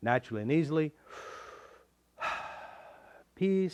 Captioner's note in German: Tiefer Atemzug